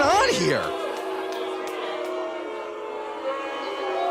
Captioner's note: audience boos